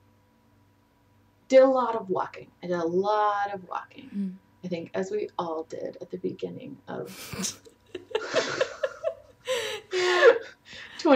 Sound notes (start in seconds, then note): 8.0 laughs